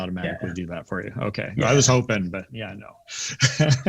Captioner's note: laughs